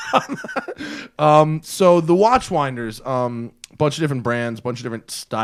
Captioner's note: laughter